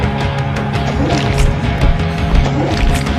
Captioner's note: growling